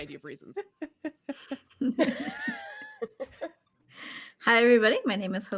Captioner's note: cast members laughing